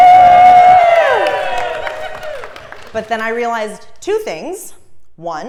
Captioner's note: applause